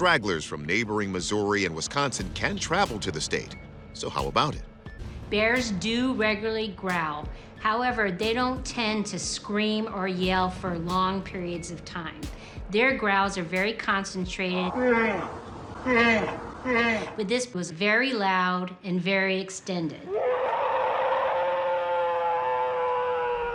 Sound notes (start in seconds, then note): 14.6 bear growling; 20.1 alleged bigfoot roaring